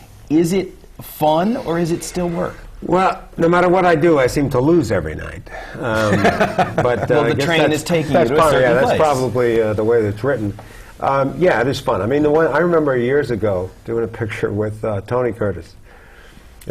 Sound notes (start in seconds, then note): 5.9 laughter